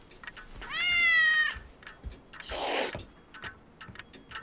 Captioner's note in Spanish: gato maullando